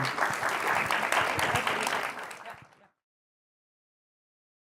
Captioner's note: applause